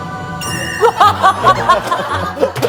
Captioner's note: chuckles